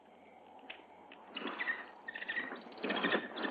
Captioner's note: bird chirping